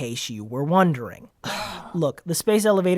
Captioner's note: annoyed sigh